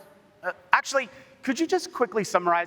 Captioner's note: speaking spanish